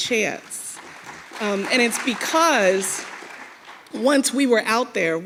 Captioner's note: audience clapping